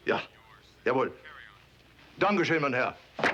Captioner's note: speaks foreign language; boots click; speaks foreign language